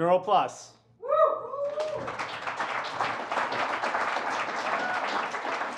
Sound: cheering and applause

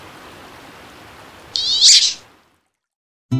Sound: high-pitched duck quack

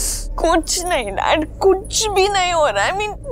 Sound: crying

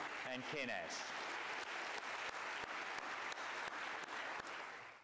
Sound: applause

